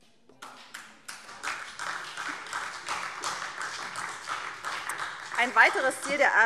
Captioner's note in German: Beifall SPD und DIE LINKE